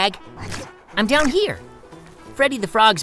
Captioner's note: frog slurps